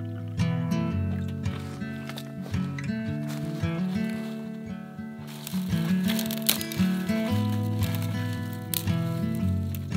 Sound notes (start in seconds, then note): 0.0 coffee pouring; 0.3 calming acoustic guitar; 5.2 twigs snapping